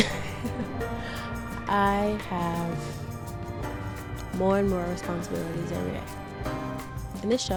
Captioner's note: laughing; laughs